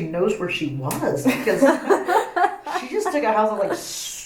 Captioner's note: laughs